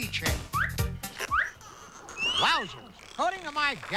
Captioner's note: dolphinqueaking, clicking